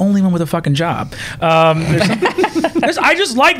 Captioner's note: laughter